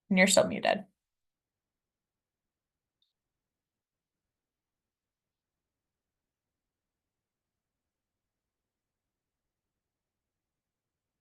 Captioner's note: silence